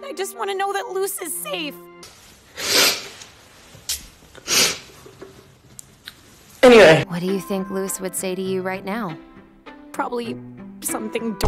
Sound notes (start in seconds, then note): 5.1 sniffling